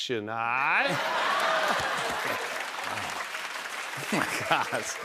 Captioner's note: laughter